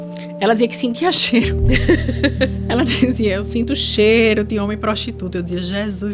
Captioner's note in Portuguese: risadas